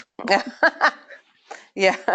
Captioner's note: laughing